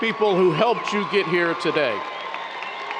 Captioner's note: audience cheers; audience cheers and applause